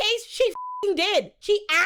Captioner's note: beep